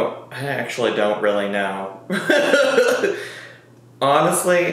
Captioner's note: laughs